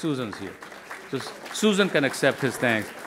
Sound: crowd applauding

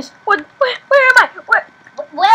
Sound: slowly panicking

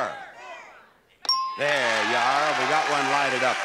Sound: buzzer chimes

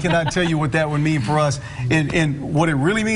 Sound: laughing

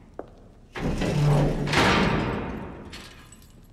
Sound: guard closes cell

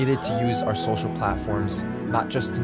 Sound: creators cheering

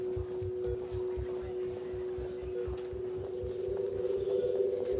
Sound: gurney rolling; indistinct chatter

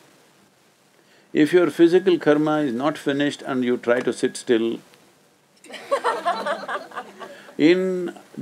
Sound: laughter

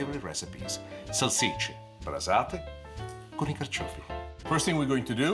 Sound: foreign language

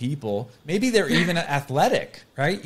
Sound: chuckles

